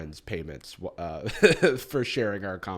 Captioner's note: chuckles